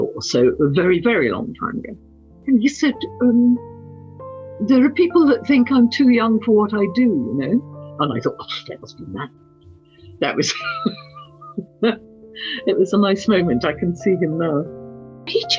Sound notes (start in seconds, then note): 10.3 laughs